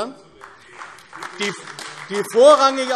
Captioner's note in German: Beifall AfD